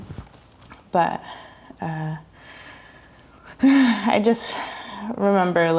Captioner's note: sighs